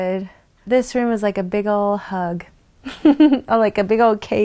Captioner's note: chuckles